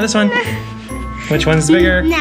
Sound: whimpers

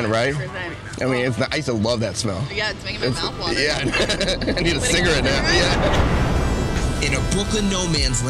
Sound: laughs

